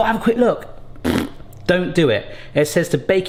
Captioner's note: blows raspberry